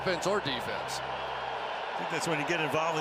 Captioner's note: cheering